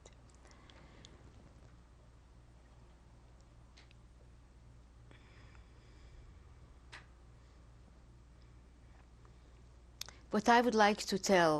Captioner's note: pauses for 10 seconds